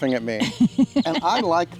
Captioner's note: woman laughing